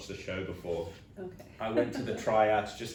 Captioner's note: laughs